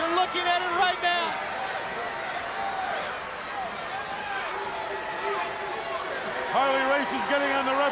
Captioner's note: crowd chatter